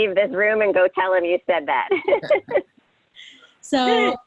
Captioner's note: laughs